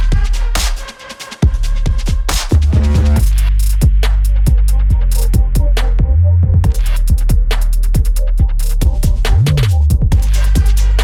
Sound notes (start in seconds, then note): none